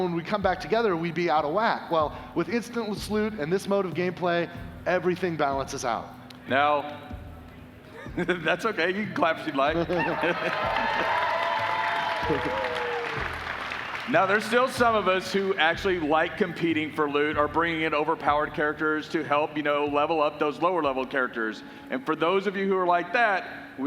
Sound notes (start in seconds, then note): 13.3 applause